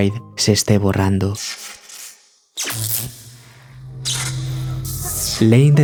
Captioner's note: electricity